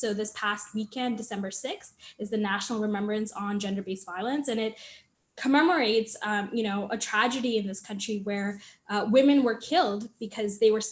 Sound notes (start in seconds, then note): none